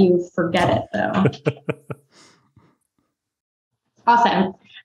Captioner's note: laughs